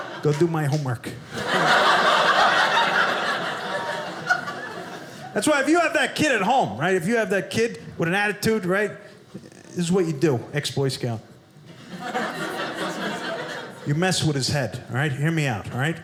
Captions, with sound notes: Go do my homework. (audience laughing) That's why if you have that kid at home, right? If you have the kid with an attitude, right? Here's what you do. Ex-Boy Scout. (audience laughing) You mess with his head, right? Hear me out, right?